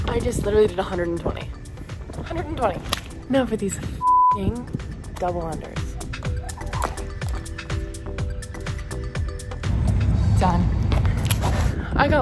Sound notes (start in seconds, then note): 4.0 beep; 6.3 upbeat music